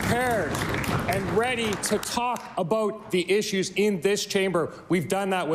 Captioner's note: applause